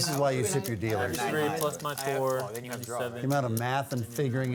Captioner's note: table chatter